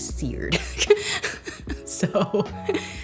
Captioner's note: laughs